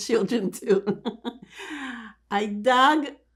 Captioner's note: laughing